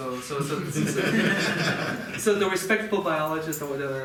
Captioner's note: audience laughing